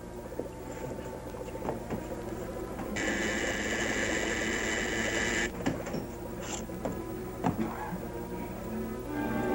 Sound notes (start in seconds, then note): 2.9 buzzing